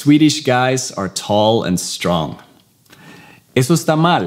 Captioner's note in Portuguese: Inglês